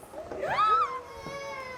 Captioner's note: shrieks